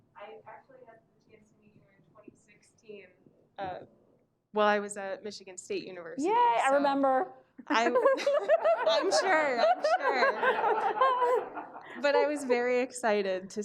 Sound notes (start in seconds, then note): 7.7 Mona laughs